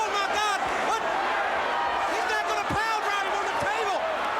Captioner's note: crowd chatter